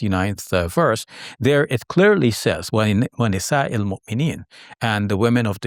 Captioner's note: speaking Arabic